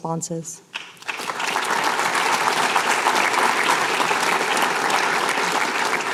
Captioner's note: applause